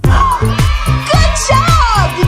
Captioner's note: cheering